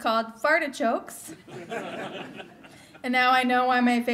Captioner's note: laughter